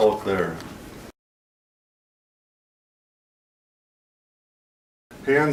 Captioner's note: silence